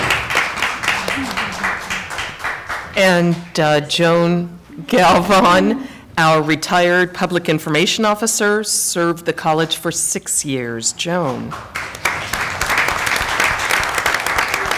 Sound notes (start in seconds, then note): 7.1 applause